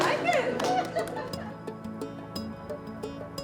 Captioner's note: applause